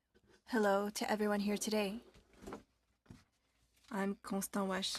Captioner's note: speaking french